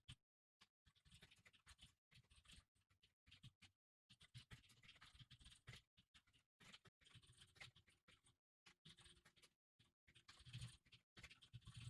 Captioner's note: typing sounds